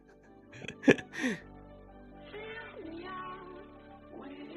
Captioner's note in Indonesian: tertawa